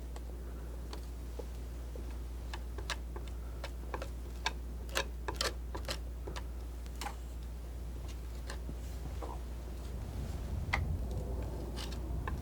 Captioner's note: scratching